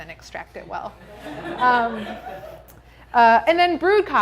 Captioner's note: audience laughing